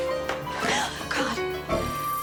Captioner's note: Margaret gasping